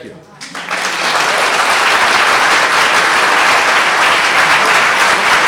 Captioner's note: applause